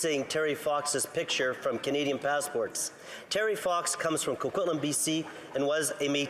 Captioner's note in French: voix de l'interprète